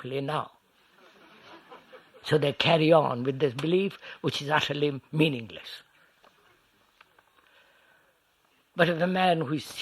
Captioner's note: laughter